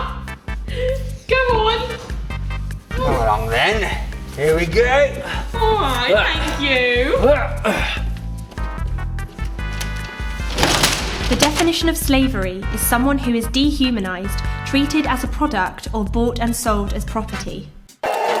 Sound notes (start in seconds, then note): 9.3 shutter door roaring shut